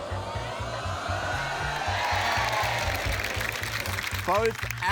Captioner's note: cheering, applause